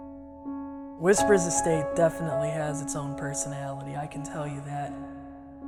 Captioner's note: voice over, male